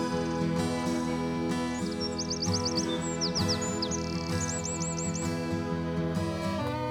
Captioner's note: birds chirping; soothing music